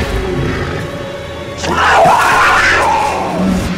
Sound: agitated leopard screeching

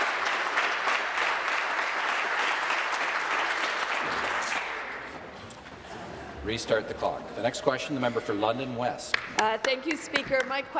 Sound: applause

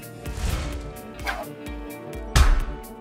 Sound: graphics whooshing

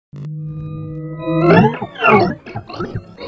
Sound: electronic effect

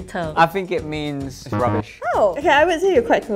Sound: buzzer buzzes

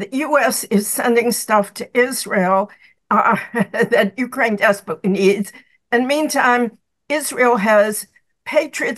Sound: laughs

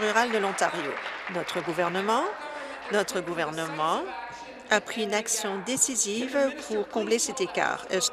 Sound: applause

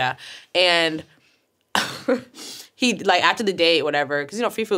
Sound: laughs

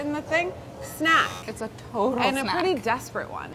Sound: buzzer pinging

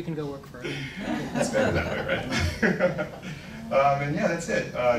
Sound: laughs

